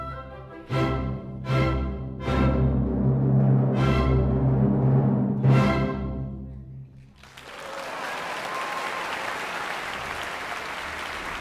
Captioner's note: applause